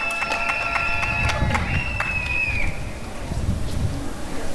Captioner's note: applause and cheering